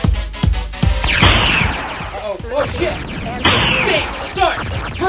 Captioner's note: video game sounds